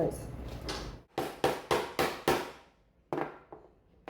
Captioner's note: hammering sounds